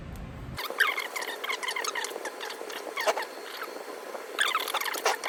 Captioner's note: fast forwarded speech